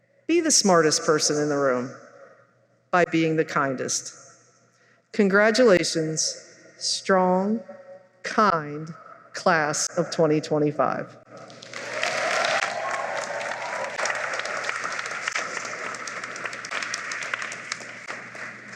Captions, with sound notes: Be the smartest person in the room by being the kindest. Congratulations, strong, kind Class of 2025. [applause]